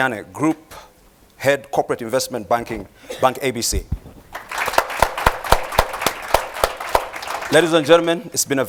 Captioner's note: applause